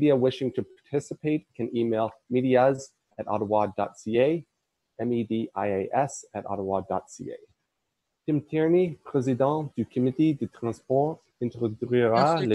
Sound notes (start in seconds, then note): 8.3 speaking in French